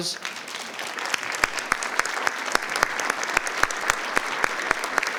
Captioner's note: attendees applauding